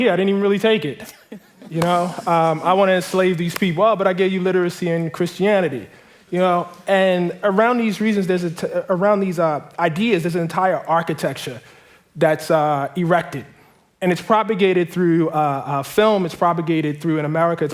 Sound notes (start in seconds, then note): 1.0 laughter